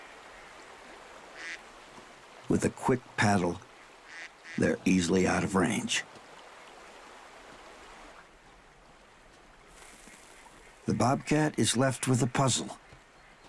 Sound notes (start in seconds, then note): none